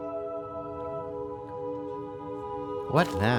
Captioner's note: crowd murmurs